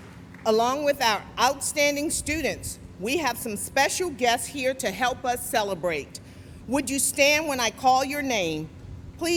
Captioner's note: applause